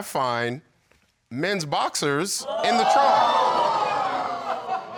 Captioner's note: audience exclaiming